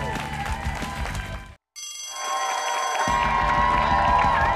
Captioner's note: applause